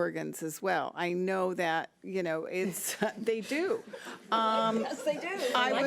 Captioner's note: board members laughing; overlapping chattering